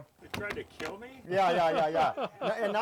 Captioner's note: laughing